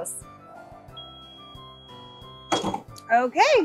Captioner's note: press dings